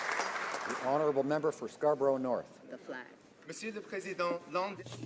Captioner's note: applause